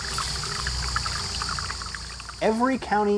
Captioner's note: sounds of stream flowing